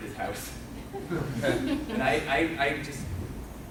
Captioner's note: laughing